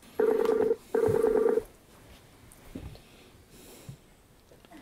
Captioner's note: sound of Skype call connecting